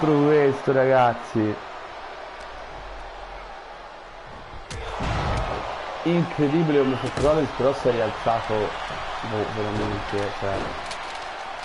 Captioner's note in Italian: Applauso